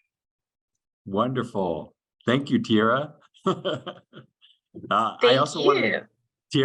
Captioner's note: chuckles